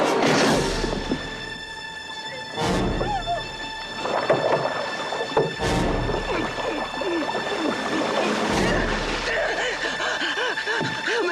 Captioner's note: gasping; grunting